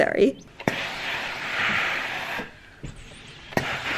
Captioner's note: steam bursting